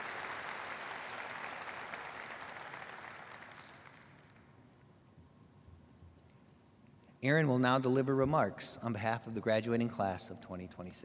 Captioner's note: applause